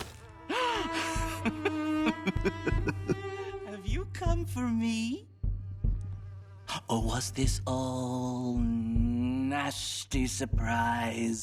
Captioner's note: laughs